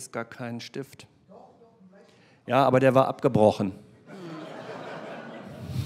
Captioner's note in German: Publikum lacht